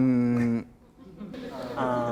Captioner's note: laughter; voiceover